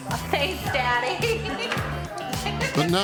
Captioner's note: laughs